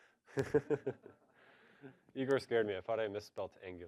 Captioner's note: laughs